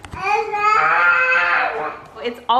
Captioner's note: babbling